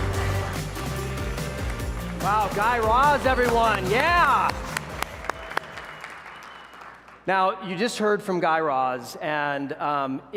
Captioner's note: applause